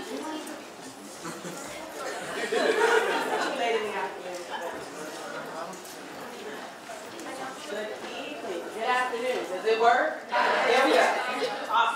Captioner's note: audience laughter and noise